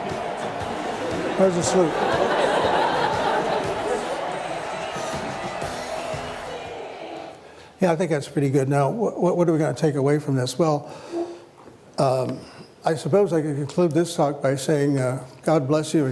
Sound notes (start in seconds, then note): 1.5 laughter